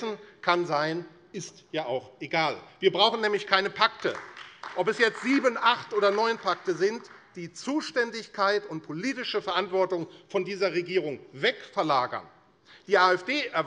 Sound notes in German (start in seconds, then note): 3.8 Beifall AfD